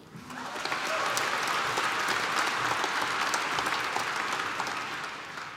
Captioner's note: applause